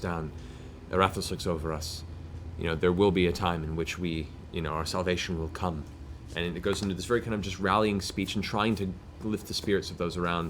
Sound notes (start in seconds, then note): none